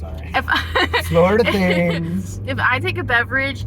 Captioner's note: laughing